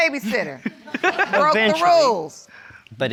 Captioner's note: audience laughs